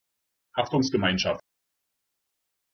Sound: fast Pronunciation

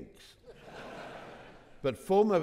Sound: audience laughing

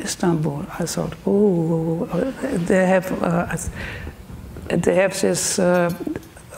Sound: speaks German

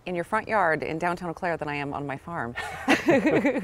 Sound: laughing

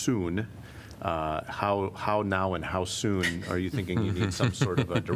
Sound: laughter

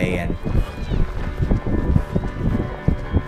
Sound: distant cheer!

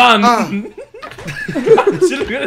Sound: laughs

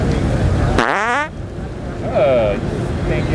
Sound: farting

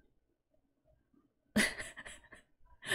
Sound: laughs

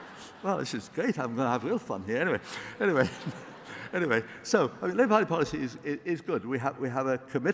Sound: laughter

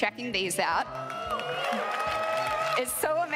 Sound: crowd applauding; crowd cheering

